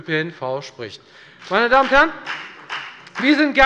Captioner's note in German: Beifall bei der FDP